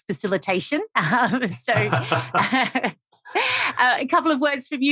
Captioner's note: laughing